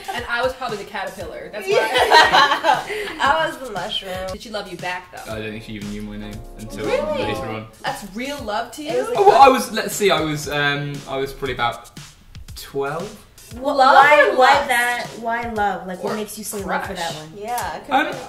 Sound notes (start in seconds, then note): 1.6 laughter